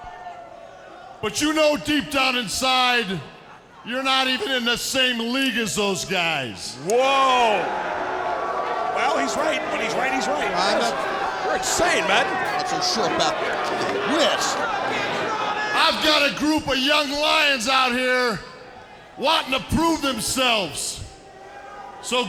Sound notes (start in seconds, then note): 13.3 audience shouting; 13.3 commentators chattering